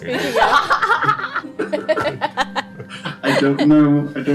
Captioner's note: all laugh